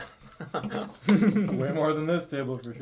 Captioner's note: laughing